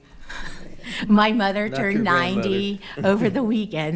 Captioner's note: laughing